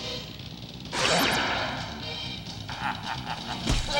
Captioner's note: laser beam shooting; guard laughing